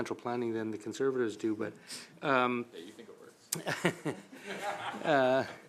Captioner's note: laughter